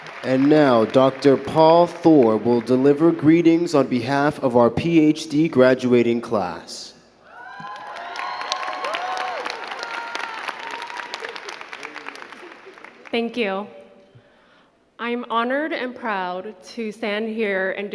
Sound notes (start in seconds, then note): 0.0 crowd clapping; 7.2 crowd clapping and cheering